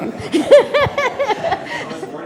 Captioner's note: Maria laughing